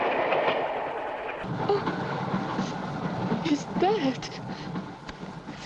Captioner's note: sobbing